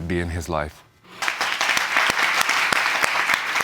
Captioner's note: audience applauding